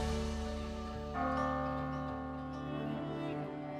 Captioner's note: bells ringing